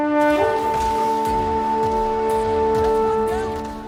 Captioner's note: gunshots